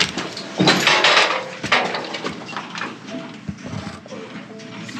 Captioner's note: cage door rattling